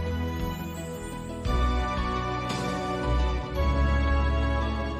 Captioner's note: none